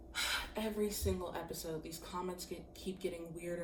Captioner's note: sighs